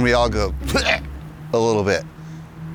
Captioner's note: gags